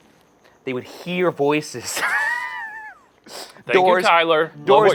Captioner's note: laughs